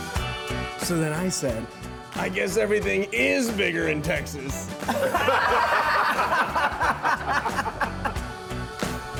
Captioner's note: laughter